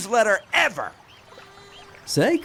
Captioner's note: fly buzzes